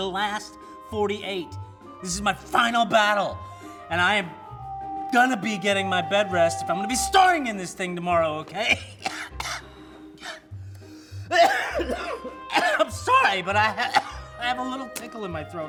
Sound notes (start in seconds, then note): 9.1 coughs